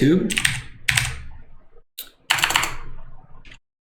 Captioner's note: keyboard clicks